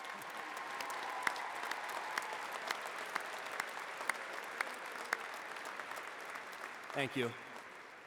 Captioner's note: applause